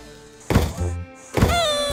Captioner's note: bang